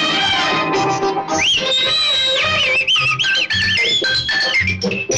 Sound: whistling

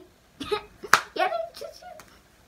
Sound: giggles

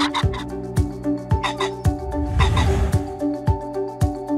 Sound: pheasant crowing; ♫ dynamic music ♫; pheasant crowing; ♫ dynamic music ♫

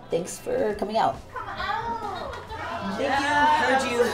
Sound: laughter

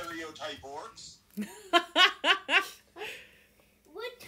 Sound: laughter

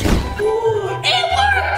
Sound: gasps

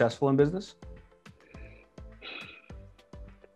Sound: deep breath

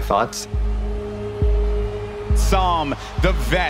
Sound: crowd cheering

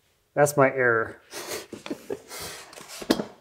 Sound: laughs

